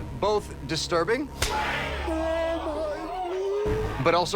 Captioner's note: hand slapping